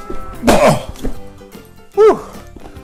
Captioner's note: smack